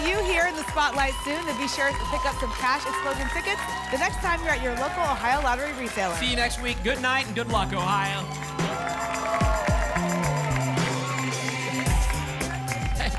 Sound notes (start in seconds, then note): 9.3 applause and cheering cont